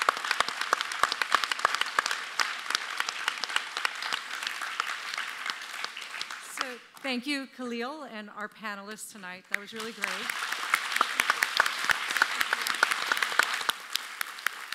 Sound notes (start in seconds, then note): 9.6 audience applauds